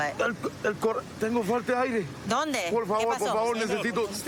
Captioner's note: speaking spanish